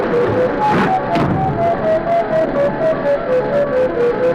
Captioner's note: door slams